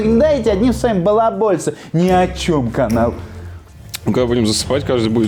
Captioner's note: sarcasm; sarcasm